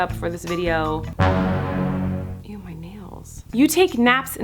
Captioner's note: dramatic booming